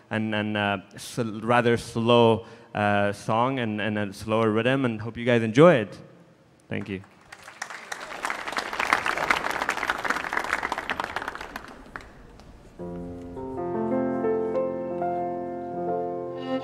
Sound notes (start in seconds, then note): 6.8 audience applauding